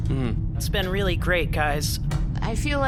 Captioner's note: mournful sigh